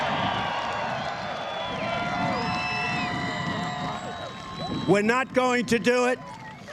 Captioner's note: cheers and applause